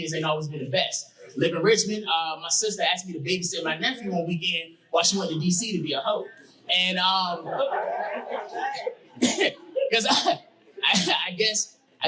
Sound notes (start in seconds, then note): 7.2 audience laughing